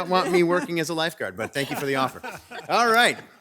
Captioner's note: group laughs